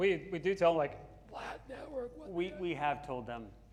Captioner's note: whispering